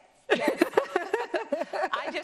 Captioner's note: both laughing